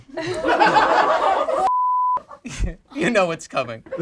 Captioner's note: group laughs